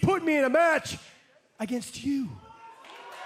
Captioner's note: cheers & applause